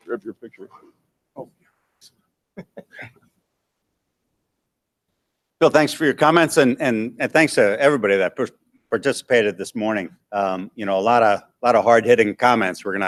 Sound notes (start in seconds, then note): 2.6 laughs